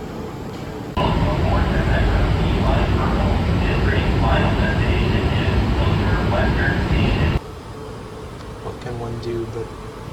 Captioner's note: pa system